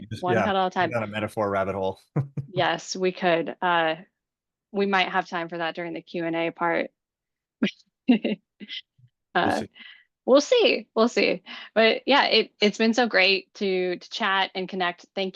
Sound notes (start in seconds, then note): 3.5 laughing; 9.4 laughs